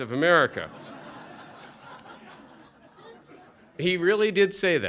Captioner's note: laughter